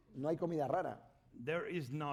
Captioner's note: speaking spanish